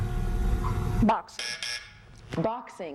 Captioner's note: buzzer